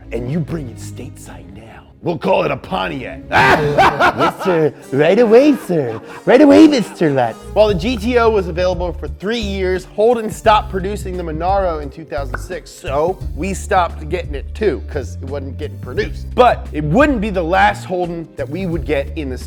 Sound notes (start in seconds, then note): 3.3 manic laughter